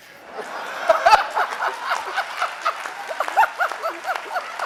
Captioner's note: audience laughing